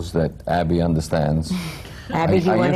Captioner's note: laughs